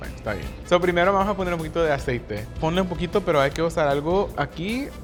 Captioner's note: speaking Spanish